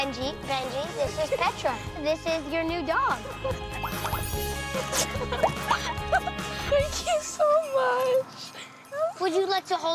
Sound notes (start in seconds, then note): 4.7 giggles